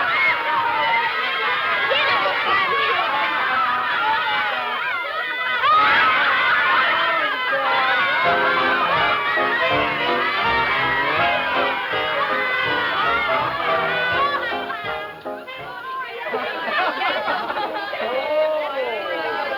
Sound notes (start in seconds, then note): 6.5 laughs; 8.2 upbeat music; 15.6 group chatter